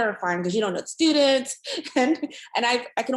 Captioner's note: chuckles